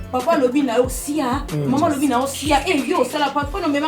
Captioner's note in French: mépris